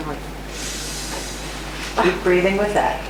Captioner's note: deep breath